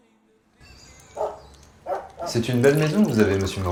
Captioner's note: barking